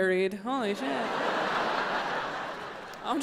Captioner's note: audience laughs